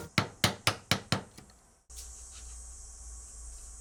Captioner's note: hammer tapping